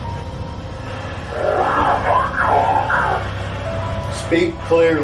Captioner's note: device murmuring